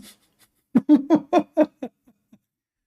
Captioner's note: Ketawa